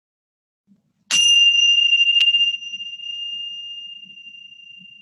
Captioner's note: bell rings